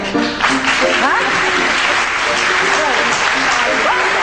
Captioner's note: audience clapping